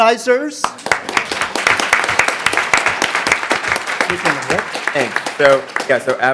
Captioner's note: applause